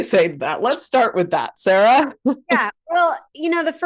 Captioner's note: laughs